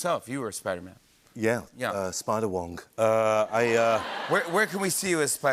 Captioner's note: laughter